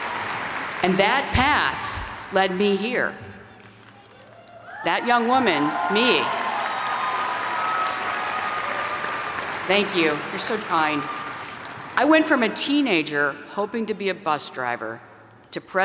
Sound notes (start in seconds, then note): 5.2 audience applaud